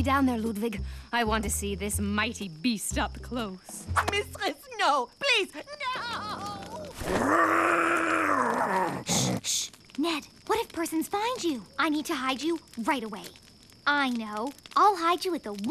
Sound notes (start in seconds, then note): 8.0 roaring